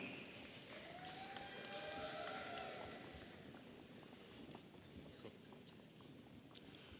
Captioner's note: audience applauding and cheering